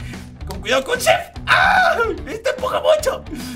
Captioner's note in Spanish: Grita